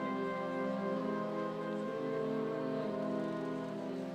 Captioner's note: soft music continues; crowd chattering